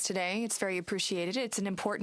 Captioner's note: speaking in French